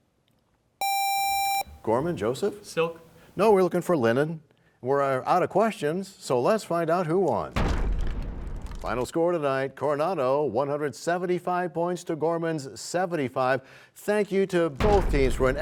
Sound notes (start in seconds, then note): 9.2 crashing sound